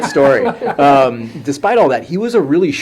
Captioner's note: laughter